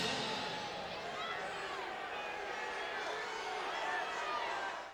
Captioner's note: spectators cheering